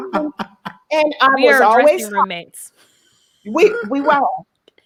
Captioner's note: laughing; voice muffled